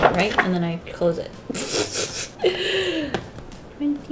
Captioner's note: laughs